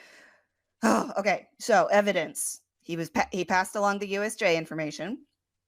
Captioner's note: sigh